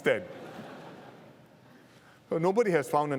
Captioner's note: laughter